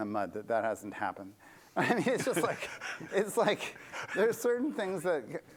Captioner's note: laughter